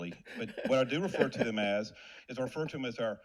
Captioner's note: laughs